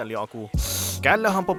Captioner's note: drool slurping noise